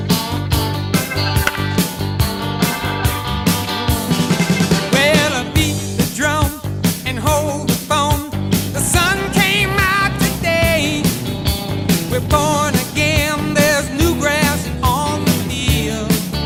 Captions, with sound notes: (Bat crack) Well, a-beat the drum and hold the phone The sun came out today We're born again, there's new grass on the field